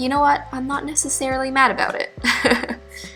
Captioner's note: laughs